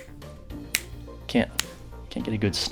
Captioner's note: snap; second snap; third snap